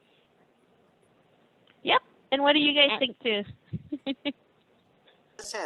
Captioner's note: laughing